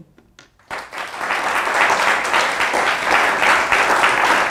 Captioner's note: applause